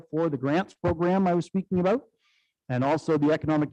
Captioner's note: none